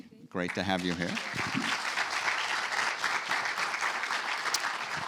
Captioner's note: audience applauding